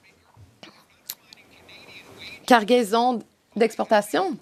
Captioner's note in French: voix de l'interprète